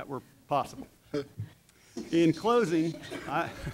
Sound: laughter

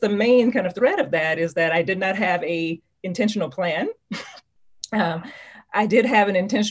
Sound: chuckles

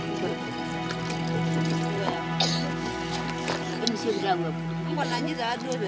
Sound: speaking in foreign language

